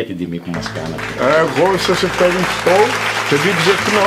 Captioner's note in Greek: χειροκροτήματα